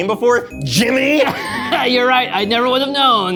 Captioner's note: all laughing